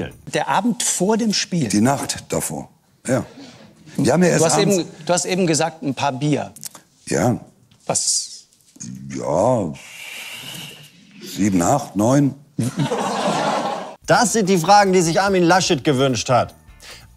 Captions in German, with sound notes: Der Abend vor dem Spiel? - Die Nacht davor, ja. Du hast eben gesagt, ein paar Bier. - Ja. Was? Ja ... Pff ... Sieben, acht, neun? (Gelächter) Das sind die Fragen, die sich Armin Laschet gewünscht hat.